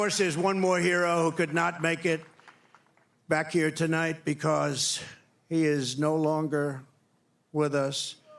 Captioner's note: cheering